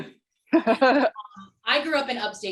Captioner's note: laughter